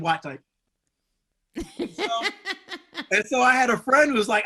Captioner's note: woman laughing